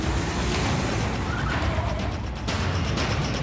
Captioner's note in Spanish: Chirrido de gomas